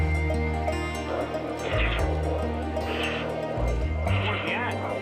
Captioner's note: heartbeats